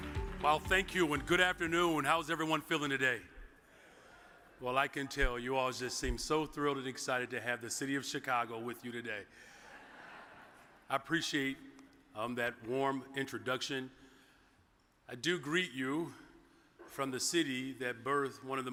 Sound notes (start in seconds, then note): 3.7 audience cheers; 9.5 audience chuckles